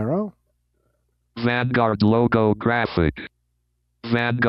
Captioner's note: automated Voice